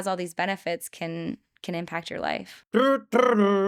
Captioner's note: humming